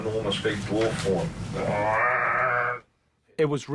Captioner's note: jackson mimics horn blowing